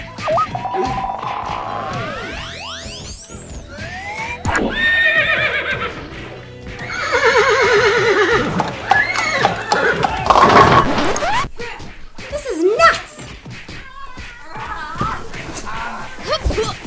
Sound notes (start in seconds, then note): 0.0 SFX: Bleeps and bloops; 1.8 SFX: MULTI charging up; 5.0 SFX: Horse neigh